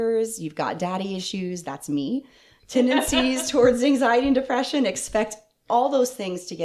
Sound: laughter

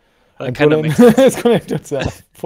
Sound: laughs

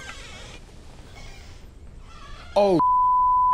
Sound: door hinges squeak

